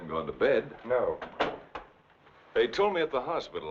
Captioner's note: door thumping